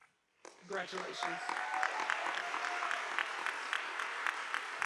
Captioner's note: audience applauding